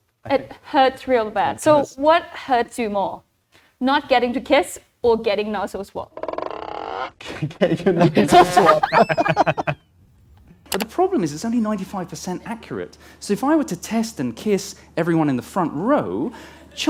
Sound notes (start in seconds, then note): 8.0 laughs